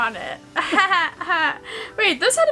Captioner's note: laughs sarcastically